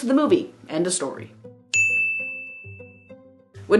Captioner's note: ding